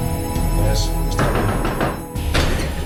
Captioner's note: knocking